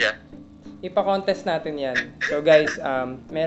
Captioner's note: laughs